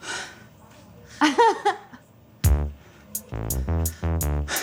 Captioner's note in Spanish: Risa nerviosa